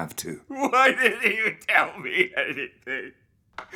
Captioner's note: Ridge crying